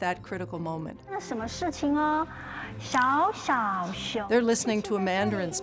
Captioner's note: speaking in Mandarin